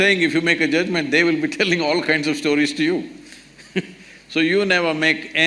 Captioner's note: laughs